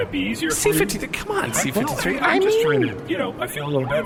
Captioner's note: sincerely; alarmed